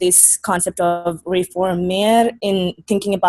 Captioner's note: speaking foreign language